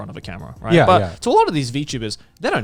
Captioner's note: affirmative murmuring